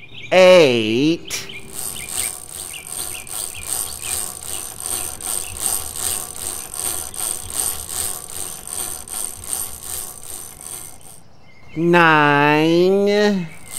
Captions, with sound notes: Professor Clunk> eight [ chain cranking ] Professor Clunk> nine